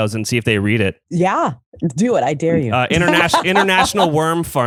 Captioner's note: laughs